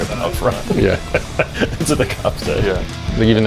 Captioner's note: laughing